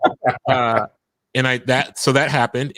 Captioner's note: laughing